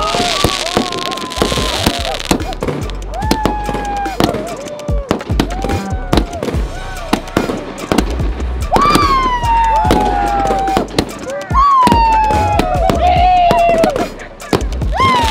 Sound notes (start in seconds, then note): 0.0 flashy Crackling sound; 8.3 flashy Crackling sound